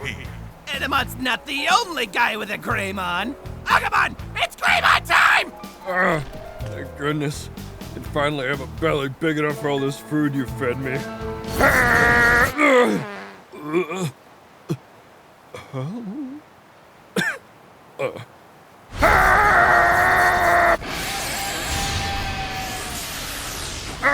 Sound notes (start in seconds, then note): 11.6 Agumon farts and crying softly from hurty tummy